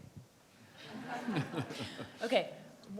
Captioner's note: audience laughs